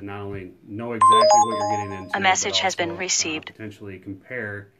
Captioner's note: phone chimes and drowns out